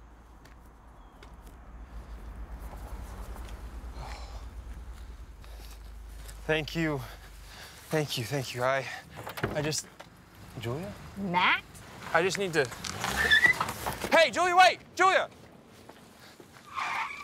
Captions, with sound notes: - Thank you, thank you, thank you. I just. Julia? - Matt? - I just need to- (tires screeching) Hey Julia, wait! Julia?